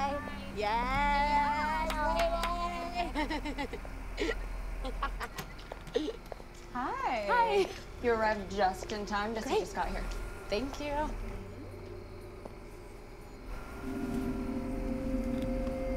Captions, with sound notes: - Bye. - Yes, hey! [laughs] - Hi. - Hi! - You arrived just in time. - Great. - Jessie just got here. - Thank you. - Mm-hmm.